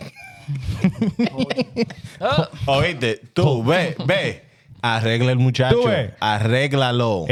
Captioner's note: laughing; speaking In Foreign Language